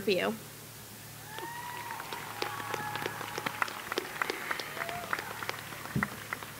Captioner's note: applause